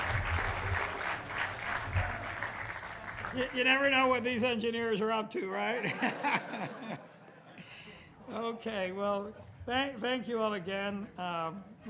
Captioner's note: applause